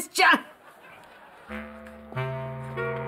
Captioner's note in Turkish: Gülme efekti